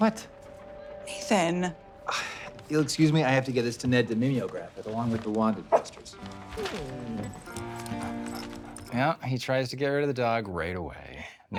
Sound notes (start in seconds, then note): 7.2 dog barking and whining